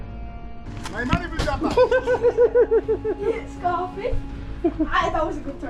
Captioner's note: laughter